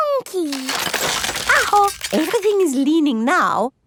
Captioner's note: house creaking